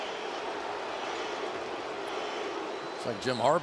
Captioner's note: crowd chanting